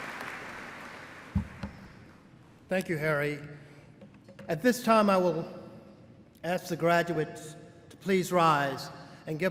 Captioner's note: cheers and applause